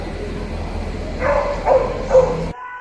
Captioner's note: dog barking